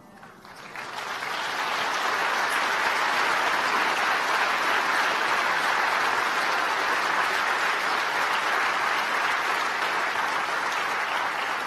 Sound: applause

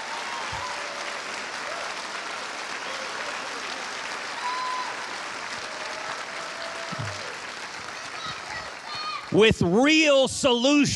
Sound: cheers and applause

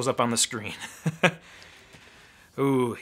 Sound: laughing

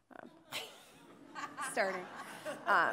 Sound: audience laughing

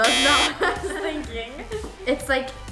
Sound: buzzer buzzes

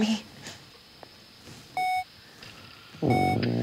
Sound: steady beeping

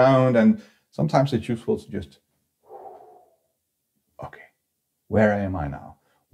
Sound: exhales

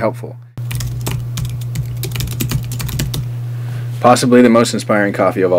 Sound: keys clacking

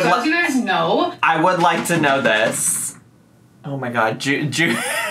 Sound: scratching; chortles

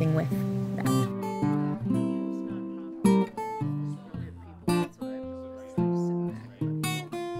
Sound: bright guitar music; people chattering

